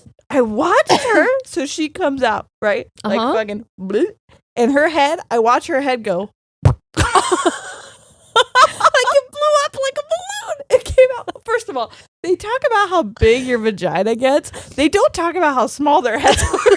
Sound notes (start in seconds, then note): 6.6 blowing air; 8.9 both laughing